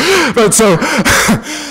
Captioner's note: laughter